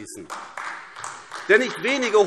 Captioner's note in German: Beifall AfD